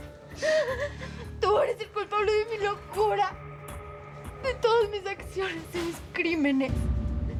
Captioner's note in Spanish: Sollozos